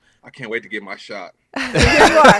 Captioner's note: laughter